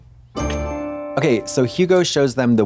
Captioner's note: bright chime